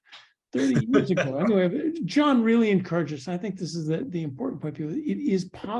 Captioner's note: laugh